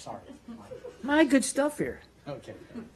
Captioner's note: laughter